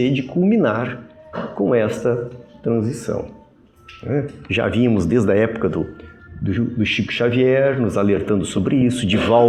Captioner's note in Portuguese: limpando a garganta